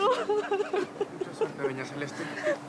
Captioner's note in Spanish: Sollozos